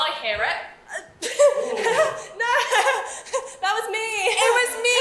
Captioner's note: fake sneezes and laughs awkwardly